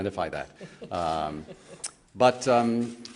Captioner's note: laughter